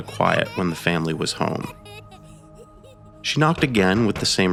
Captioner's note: children laughing